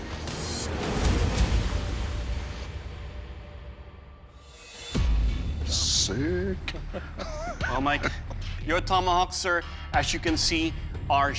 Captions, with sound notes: Sick. [laughs] Well, Mike, your tomahawks, sir, as you can see, are sharp.